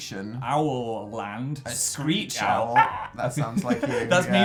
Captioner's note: screeches